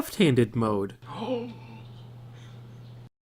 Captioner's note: gasp